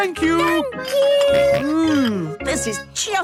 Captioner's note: snorts